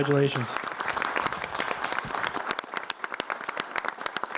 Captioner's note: clapping